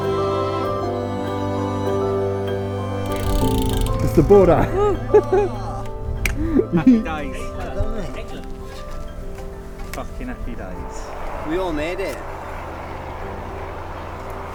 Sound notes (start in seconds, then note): 0.3 upbeat instrumental; 4.4 whoops and cheers; 7.6 muffled excited chat